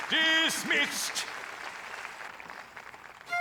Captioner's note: audience applauds